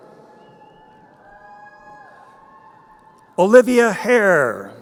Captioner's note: crowd cheering